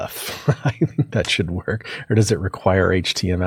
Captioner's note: laugh